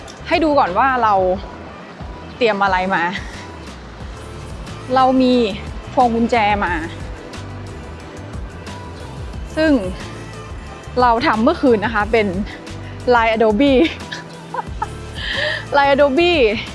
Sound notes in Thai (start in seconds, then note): 13.6 เสียงหัวเราะ